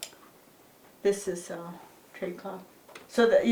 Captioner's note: speaks foreign language